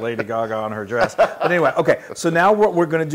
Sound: laugh

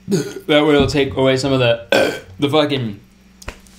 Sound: burping; burping

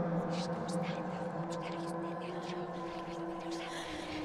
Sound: voices whispering

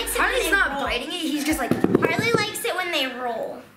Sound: taps on floor

